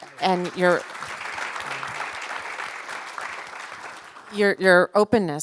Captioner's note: attendees applaud